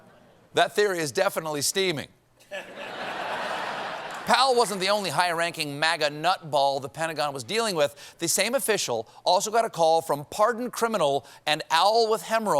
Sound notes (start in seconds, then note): 2.4 laughter